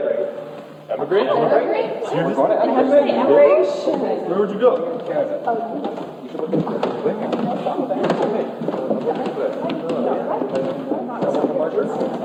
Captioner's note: congregation bustling with talk of immigration